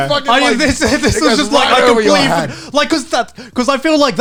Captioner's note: overlapping chatter